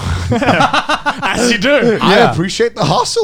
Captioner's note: laughing